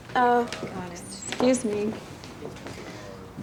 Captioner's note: none